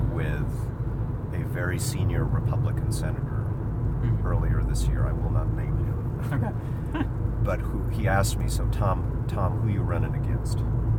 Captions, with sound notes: with a very senior Republican senator earlier this year. I will not name him. - Okay (chuckles). - But he asked me, "So, Tom, who you runnin' against?"